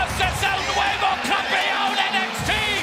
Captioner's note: speaking in foreign language